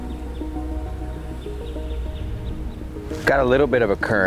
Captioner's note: birds chirping; soft music